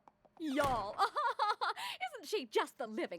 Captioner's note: laughs; posh accent